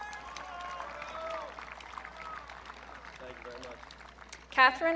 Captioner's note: audience cheering